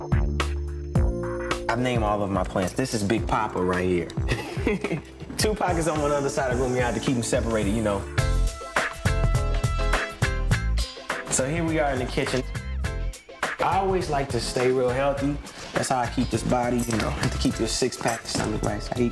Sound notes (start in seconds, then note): 4.1 laughs